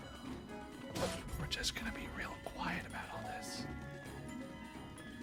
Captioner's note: whisper